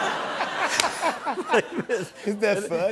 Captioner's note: laughter